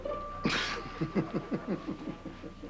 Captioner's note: Rire